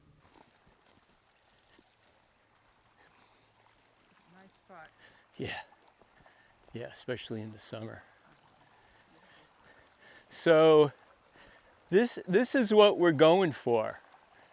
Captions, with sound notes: - Nice spot. (water sloshing) - Yeah. Yeah, especially in the summer. So, this is what we're going for.